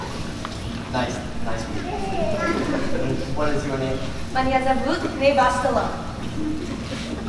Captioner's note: foreign Language